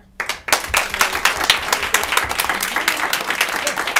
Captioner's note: applause